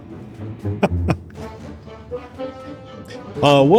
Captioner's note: laugh